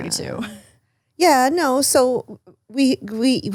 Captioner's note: laughs